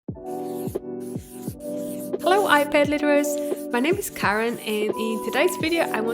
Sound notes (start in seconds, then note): 0.1 gentle chill music; 0.2 digital pencil scratching